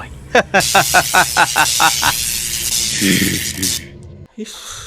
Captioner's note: laughing